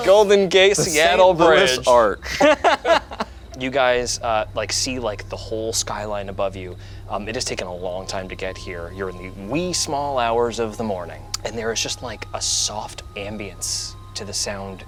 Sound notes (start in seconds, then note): 3.0 laughs